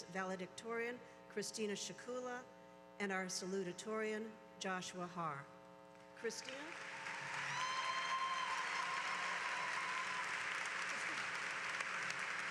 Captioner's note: applause